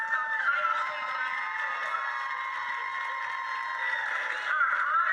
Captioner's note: cheering